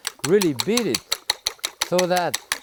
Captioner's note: fork clacking